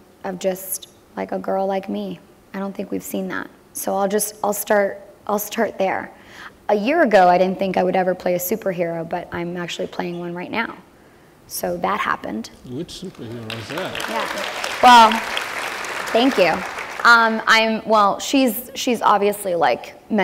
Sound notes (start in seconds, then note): 15.2 applause